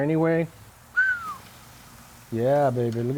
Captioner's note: quiet whistle